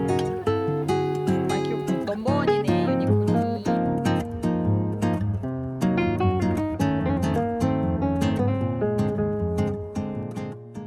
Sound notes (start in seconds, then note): 1.4 crying